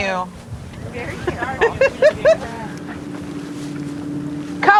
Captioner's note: laughing